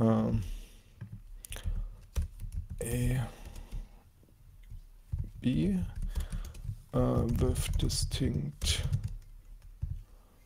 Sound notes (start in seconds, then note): 2.1 keyboard clacking